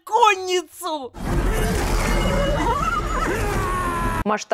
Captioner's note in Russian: Звуки битвы